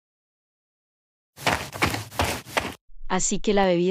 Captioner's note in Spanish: FX - Footsteps - On Multiple Dirt - Run